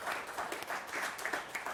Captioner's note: applause